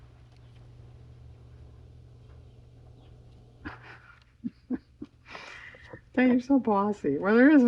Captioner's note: laughs